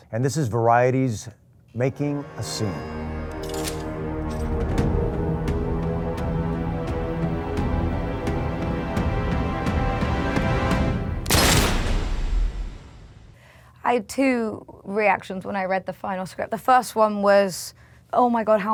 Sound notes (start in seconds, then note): 3.4 dramatic music; 3.4 metal rattling; 11.2 gunshot booming